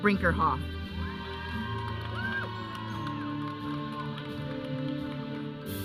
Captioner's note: audience cheering; audience chattering; processional music